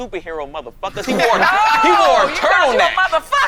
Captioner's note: all laughing